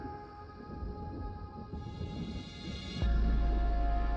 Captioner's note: fire crackling